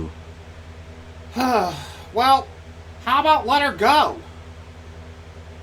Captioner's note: sighs